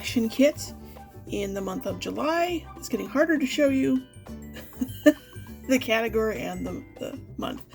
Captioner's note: laughs